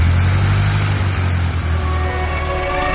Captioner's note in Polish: Dźwięk silnika